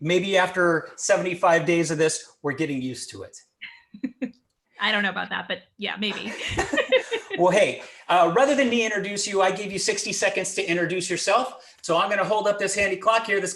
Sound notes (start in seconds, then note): 3.6 chuckling; 6.0 laughing